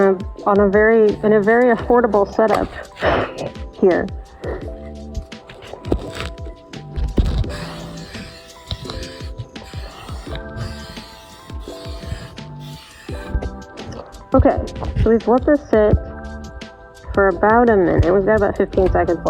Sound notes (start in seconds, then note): 6.9 aerosol sounds